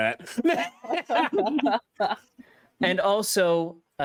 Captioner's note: players laughing